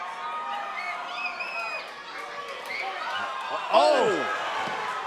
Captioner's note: crowd cheering